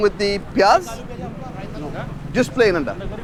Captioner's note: cook speaking in foreign language